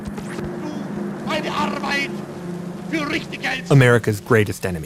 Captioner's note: speaking German